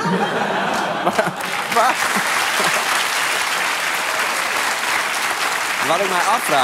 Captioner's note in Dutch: gelach en applaus